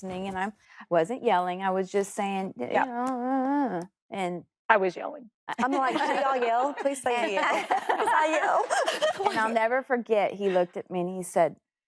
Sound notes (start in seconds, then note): 5.2 laughs; 8.4 laughs